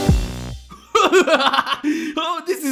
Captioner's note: yang laughs